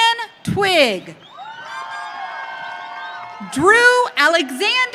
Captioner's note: audience cheering